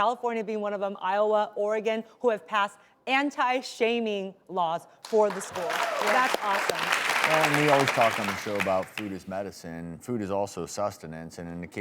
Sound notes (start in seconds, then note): 5.0 applause